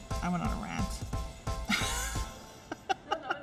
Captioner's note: laughing